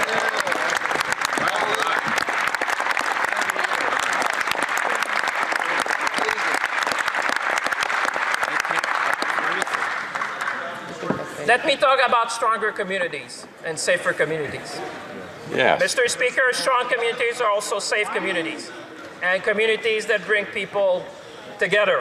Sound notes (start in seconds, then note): 3.4 some Applause